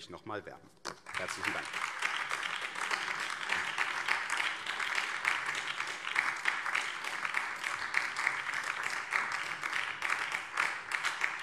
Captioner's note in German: Beifall BÜNDNIS 90/DIE GRÜNEN